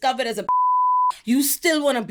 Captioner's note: beep